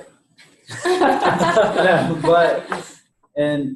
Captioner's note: all laughing